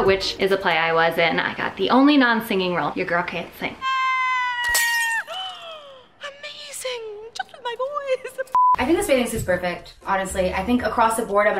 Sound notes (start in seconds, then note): 4.0 yelling; 4.7 glass chattering